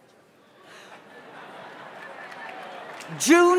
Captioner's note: audience laughs